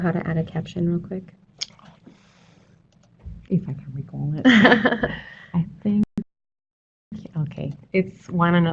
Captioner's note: laughter